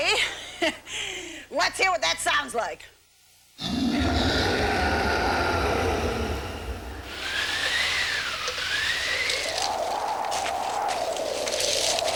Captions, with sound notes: O.K. LET'S HEAR WHAT THAT SOUNDS LIKE. [ROAR] [WIND BLOWING] [WIND BLOWING]